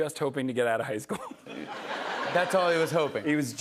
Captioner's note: laughter